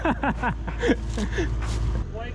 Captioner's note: laughing